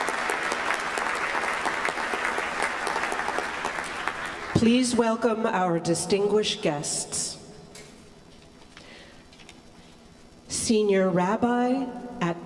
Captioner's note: applause